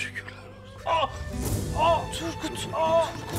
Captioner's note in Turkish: Bağırma sesi